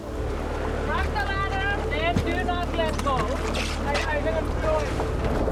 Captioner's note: indistinct chatter